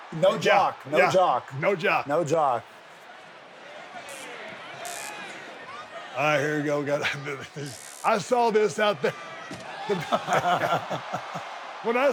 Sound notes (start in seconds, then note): 3.3 audience clamors; 9.4 audience cheers; 9.9 Sami and Steve laugh